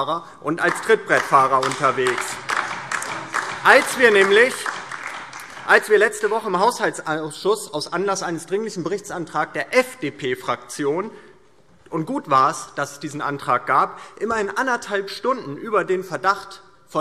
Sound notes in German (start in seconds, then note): 2.3 Beifall